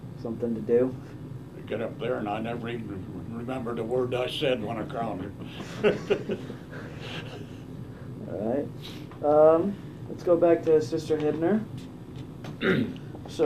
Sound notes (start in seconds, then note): 5.4 laughs